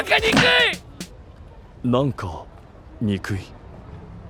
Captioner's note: confused